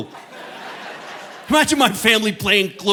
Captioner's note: audience laughing